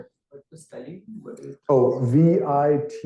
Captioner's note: student speaking faintly